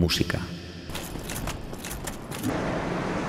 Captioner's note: armor parts clacking together